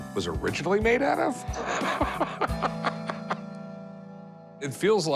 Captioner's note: laughs